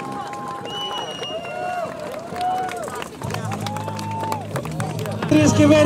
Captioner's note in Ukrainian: оплески